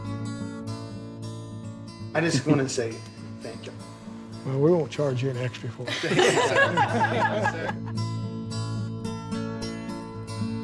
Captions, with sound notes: - I just wanna say, thank you. - Yeah, we won't charge you any extra for it. (laughing) - Thank you, sir. (happy music)